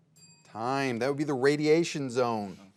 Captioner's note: bell dings